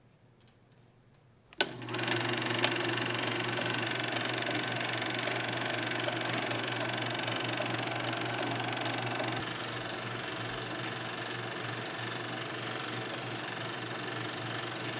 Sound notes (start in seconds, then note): 1.6 film projector playing